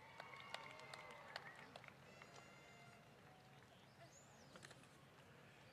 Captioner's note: applause